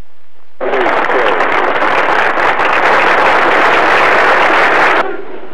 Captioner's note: applause